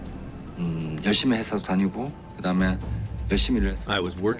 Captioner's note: speaking foreign language